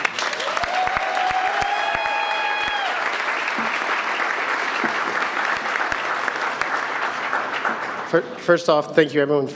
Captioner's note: cheers and applause